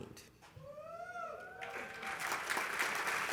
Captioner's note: cheering